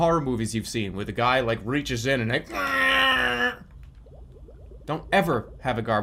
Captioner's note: imitates shredding